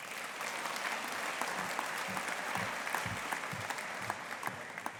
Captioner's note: audience applauding